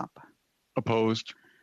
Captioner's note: speaking FRENCH